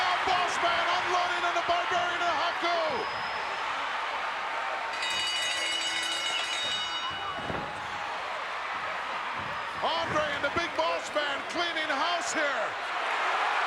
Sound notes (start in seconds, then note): 4.9 bell ringing; 8.3 crowd cheering